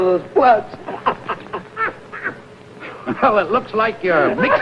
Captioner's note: happy chuckling